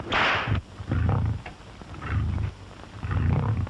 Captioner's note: growling